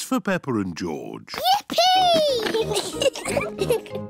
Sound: giggles

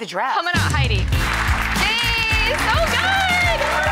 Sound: audience clapping

